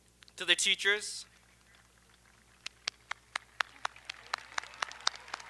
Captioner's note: audience applauding